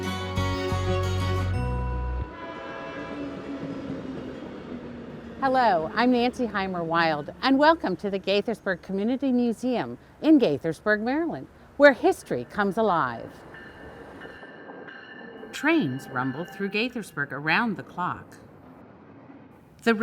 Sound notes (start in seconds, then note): 13.5 train sounds